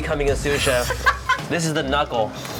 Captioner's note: laughs